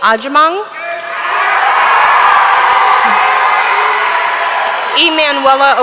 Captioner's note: audience cheering; audience applauding